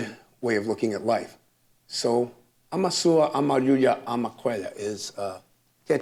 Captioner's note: speaks Quechua